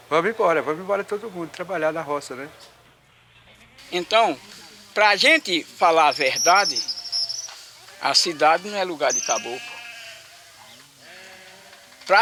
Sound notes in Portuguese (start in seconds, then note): 5.8 Canto de pássaros; 7.9 Balidos de carneiros, canto de pássaros